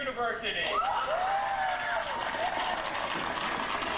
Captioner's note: clapping